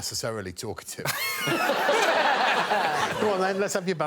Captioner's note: laughter